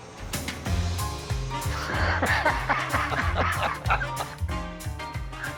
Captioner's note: laughs